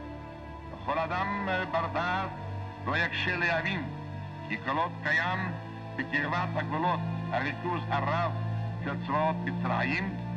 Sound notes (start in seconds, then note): 1.0 speaking foreign language